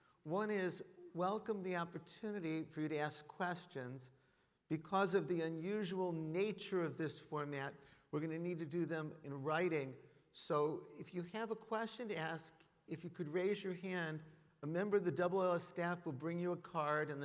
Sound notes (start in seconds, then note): none